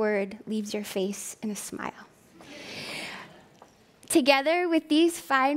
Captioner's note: laughing